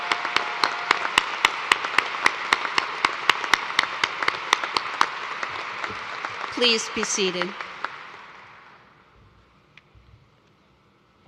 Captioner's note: cheers and applause